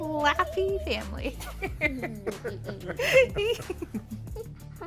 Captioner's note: chuckling